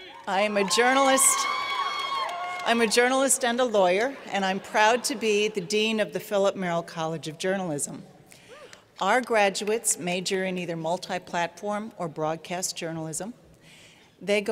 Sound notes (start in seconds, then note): 0.0 cheers and Applause